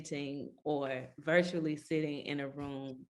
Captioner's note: none